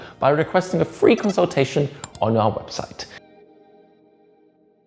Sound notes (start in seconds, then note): 2.0 mouse clicks